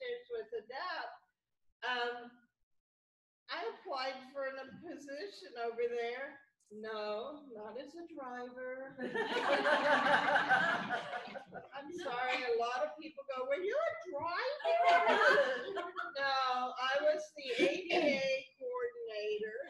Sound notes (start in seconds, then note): 9.0 laughter; 15.0 laughter